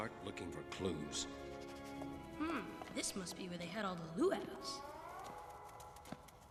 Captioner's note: sniffing